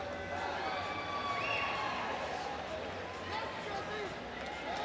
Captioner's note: crowd loudly cheering